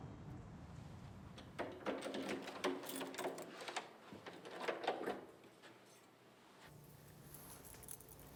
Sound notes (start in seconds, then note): 1.4 door rattling